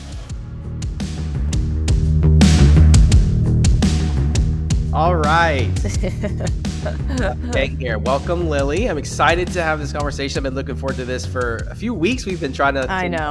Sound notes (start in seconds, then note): 0.2 rock music; 5.3 laughs